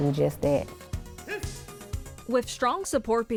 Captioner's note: pleasant music; student shouting